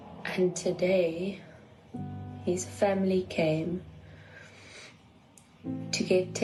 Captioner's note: sniffs